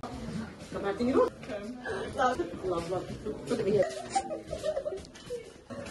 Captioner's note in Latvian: cilvēki fonā sarunājas